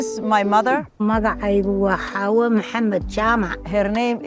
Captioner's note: mother speaking Nepali